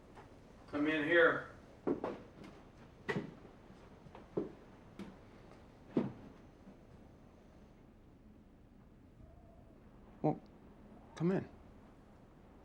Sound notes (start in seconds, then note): none